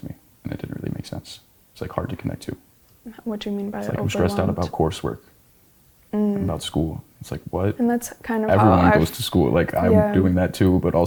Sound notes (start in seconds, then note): none